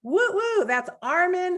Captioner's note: exults